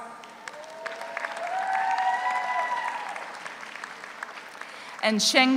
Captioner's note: audience applauds; audience cheers